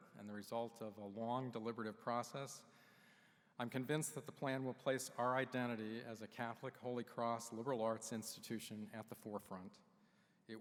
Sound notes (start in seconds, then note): none